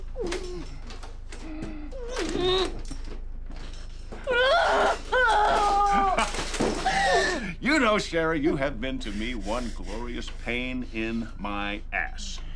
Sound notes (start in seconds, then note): 4.0 laughing; 4.3 screaming